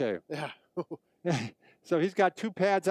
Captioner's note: men chuckling